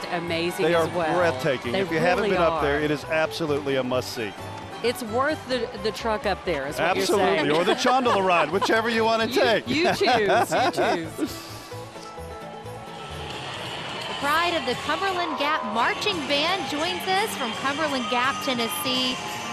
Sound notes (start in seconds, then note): 9.1 laughing; 12.1 banjo music; 13.5 band music